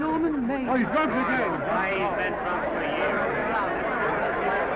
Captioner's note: all chattering